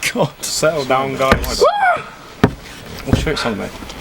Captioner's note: screams